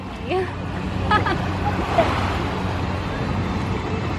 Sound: chuckles

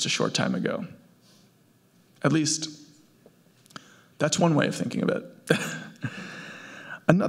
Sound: laughs

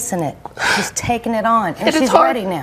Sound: sobs

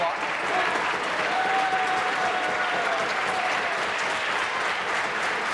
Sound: applause; voice fading; applause

